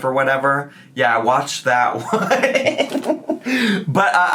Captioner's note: laughs